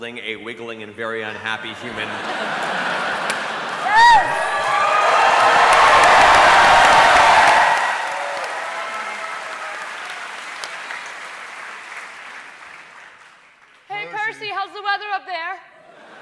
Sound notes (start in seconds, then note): 1.4 cheering